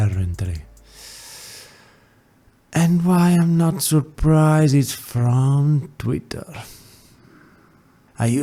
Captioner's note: inhale